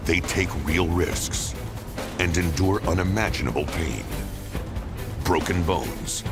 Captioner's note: none